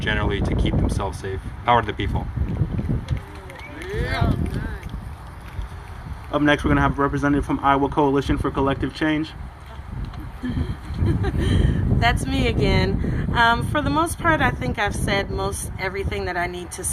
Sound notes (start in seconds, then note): 3.1 applause